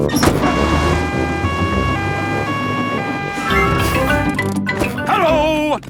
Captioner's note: siren wailing